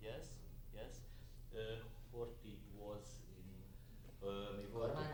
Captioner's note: people chattering in background